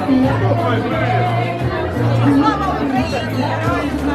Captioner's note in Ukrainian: оплески